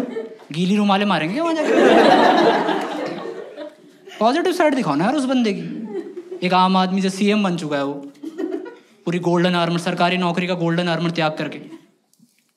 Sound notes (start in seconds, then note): 1.6 laughs